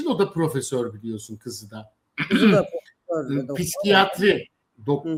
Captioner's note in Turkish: boğazını temizler